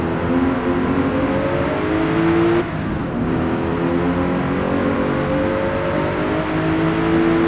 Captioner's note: car accelerating